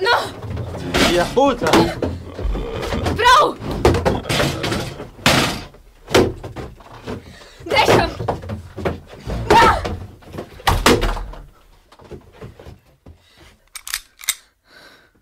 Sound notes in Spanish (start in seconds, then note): 13.7 sonido de gatillo